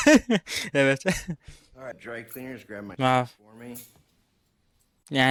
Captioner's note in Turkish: kahkaha